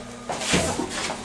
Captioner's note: whump